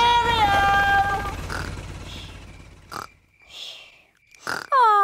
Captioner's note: baby alexander snoring